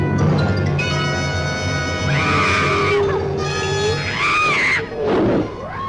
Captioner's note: small Dove screaming